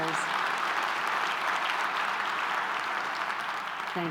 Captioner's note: clapping